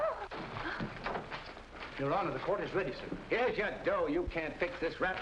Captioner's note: Rosie gasps